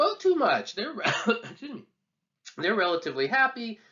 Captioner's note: coughs